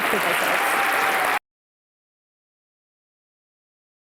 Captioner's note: applause